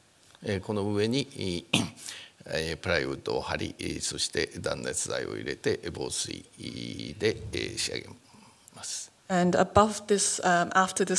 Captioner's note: speaking japanese